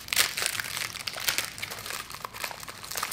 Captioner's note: rustling